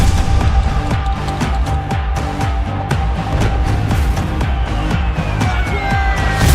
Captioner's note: clap